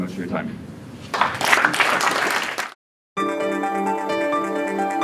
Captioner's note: audience claps; inspirational music